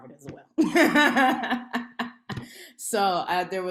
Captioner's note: laughs